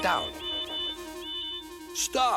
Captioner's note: toot toot toot